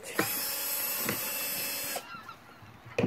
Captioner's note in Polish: Odgłos wkrętarki